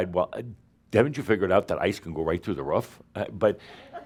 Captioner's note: more chuckles